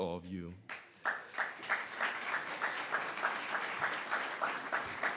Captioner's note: audience applauds